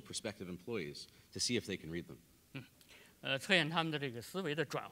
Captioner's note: speaking in Chinese